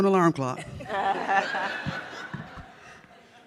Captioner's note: audience laughs